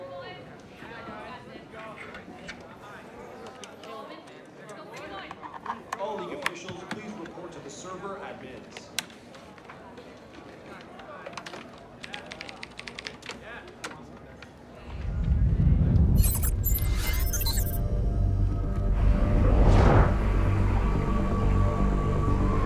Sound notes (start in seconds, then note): 12.0 keyboard clicking; 15.4 low thudding; 16.1 readout sliding and beeping; 17.9 ominous orchestral music